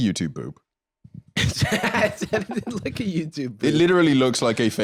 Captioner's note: laughs